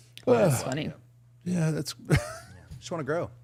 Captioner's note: chuckling